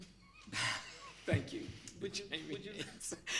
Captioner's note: laughs